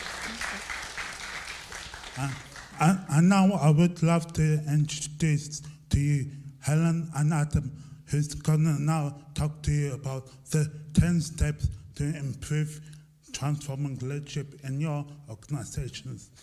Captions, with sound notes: Thank you very much. A round of applause for Patrick, thank you. (Applause) Now I would love to introduce to you, Helen and Adam. Who is going to now talk to you about the 10